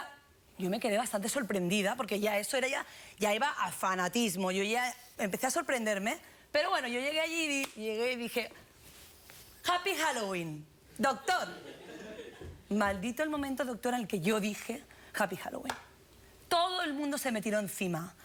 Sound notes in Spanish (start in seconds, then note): 11.2 risas